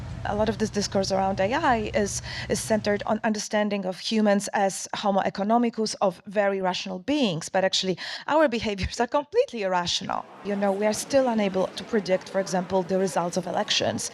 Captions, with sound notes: A lot of this discourse around AI is-is centred on understanding of humans as homo-economicus of very rational beings, but actually our behaviours are completely irrational. [Crowd sounds] You know, we are still unable to predict for example, the results of elections.